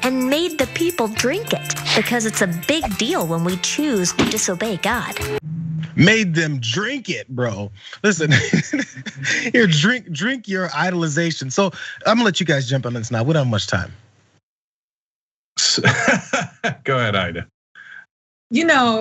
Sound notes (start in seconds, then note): 8.2 laugh; 15.6 laugh